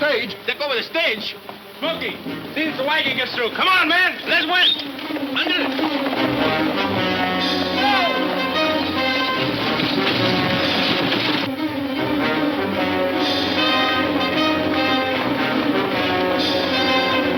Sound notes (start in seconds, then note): 3.4 hooves clunking; 7.8 wheels clunking; 12.7 intense instrumental music